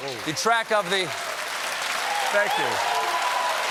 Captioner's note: applause